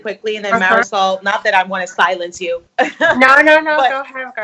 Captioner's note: laughs